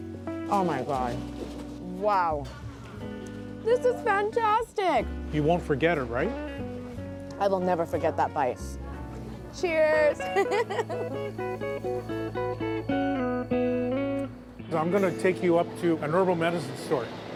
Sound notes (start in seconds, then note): 10.1 laughs; 11.1 slow guitar music